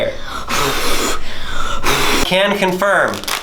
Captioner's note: vigorous blowing